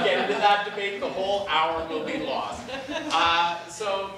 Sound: class laughing

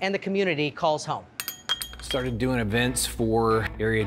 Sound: glasses clinking

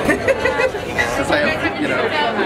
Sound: laughing; fly buzzing

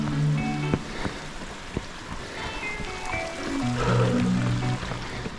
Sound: water splashing

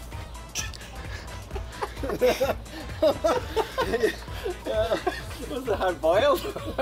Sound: laughter

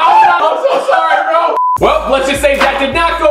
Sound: beep

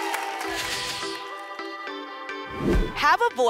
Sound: whoosh

